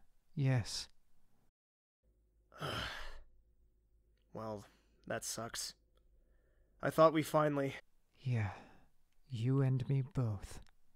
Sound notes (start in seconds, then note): 2.5 soft groan